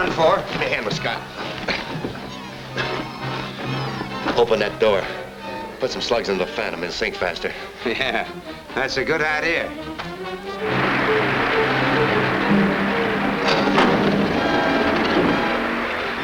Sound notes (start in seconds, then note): 2.6 men gasp; 8.3 laughs; 10.6 water splashes; 11.3 suspenseful orchestral music